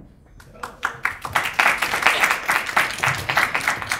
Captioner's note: clapping